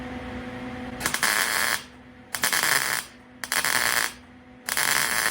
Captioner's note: buzzing